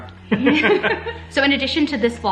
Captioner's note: laughing